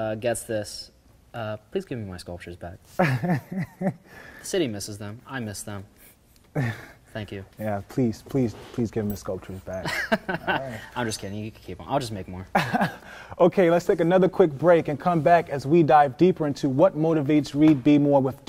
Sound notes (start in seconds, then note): 3.0 laughing; 9.8 laughing; 12.5 laughing